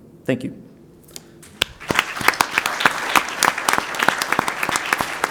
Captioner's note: applause